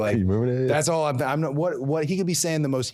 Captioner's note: laughs